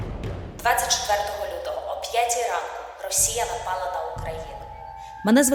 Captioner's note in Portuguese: ucraniano